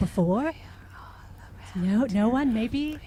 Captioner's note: voices